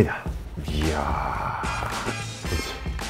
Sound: exclaiming

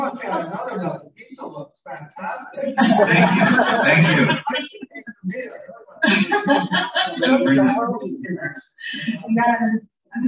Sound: laughter

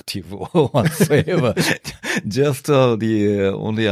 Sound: laughter

